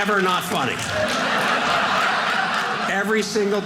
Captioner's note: audience laughing